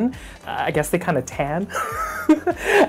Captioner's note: giggles